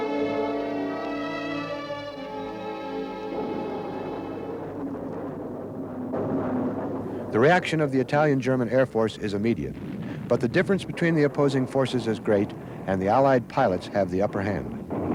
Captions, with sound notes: (wretched music fades) (propellors whir) The reaction of the Italian-German air force is immediate, but the difference between the opposing forces is great, and the Allied pilots have the upper hand.